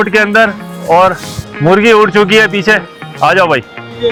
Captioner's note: drone